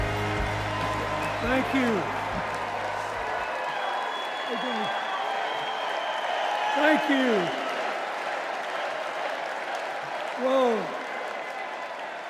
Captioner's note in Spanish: aplausos